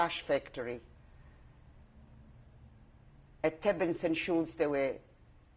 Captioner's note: pauses for 3 seconds